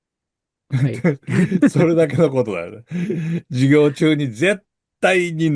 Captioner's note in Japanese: 笑い